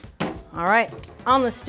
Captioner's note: pan clanging